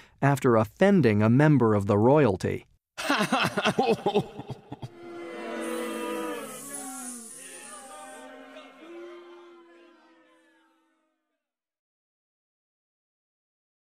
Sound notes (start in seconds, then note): 3.0 laughter; 4.9 crowd booing and jeering